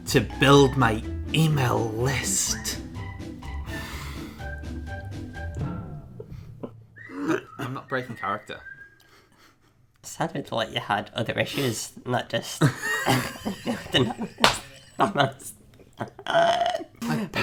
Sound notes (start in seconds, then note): 3.6 laughs; 13.1 speech distorted by laughter